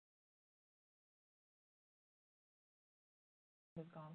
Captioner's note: sound lost